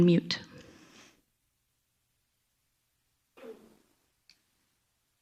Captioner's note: silence